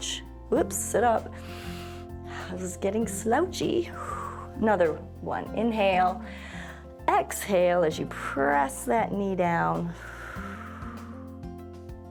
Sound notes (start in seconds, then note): 1.4 inhales; 3.8 exhales; 6.3 inhales; 9.9 exhales